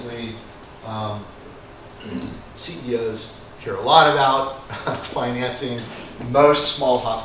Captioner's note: cough